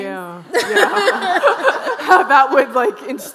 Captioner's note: all laughing